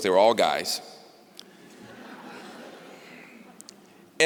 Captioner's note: laughter